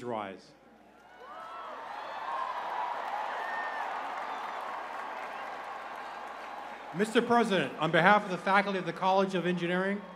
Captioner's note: cheers and applause